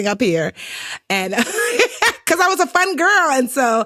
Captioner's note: laughs